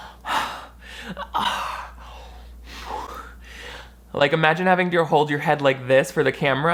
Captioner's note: breathing loudly